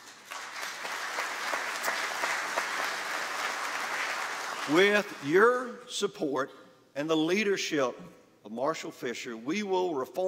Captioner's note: applause